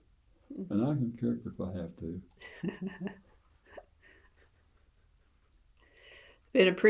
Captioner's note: laughter